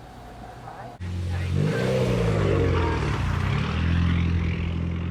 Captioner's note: engine revving